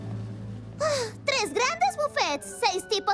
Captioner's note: sighs